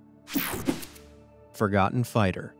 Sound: image whooshing

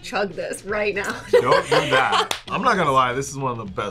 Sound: laughs

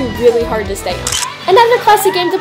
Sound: camera shutter clicks

